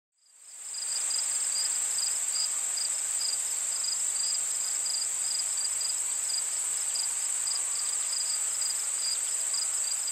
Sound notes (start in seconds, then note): 0.3 insect noises